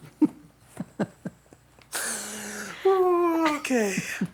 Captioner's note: laughing